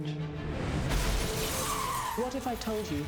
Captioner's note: tires screeching; glass shattering